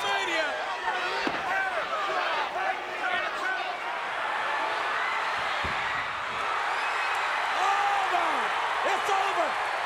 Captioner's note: applause